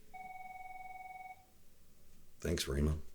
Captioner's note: phone rings